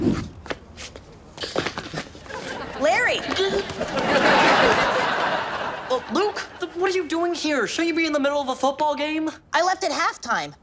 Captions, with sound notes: - Larry. (gasps) (audience laughs) - Luke, what are you doing here? Shouldn't you be in the middle of a football game? - I left at half time.